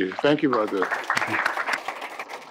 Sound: applause

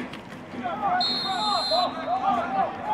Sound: whistle; chatter

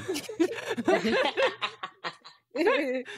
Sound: laughing

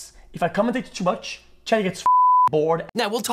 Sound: beeps

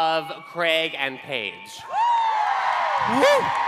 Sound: cheering

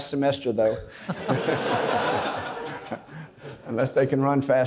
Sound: everybody laughs

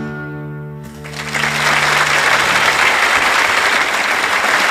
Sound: audience applauds

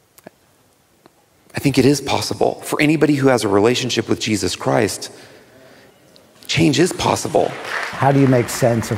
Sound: applause

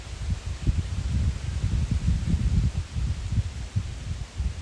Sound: wind shakes my tripod

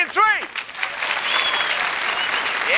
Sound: cheers and applause

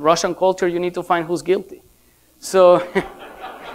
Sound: laughter

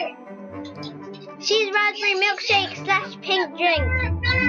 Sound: laughs

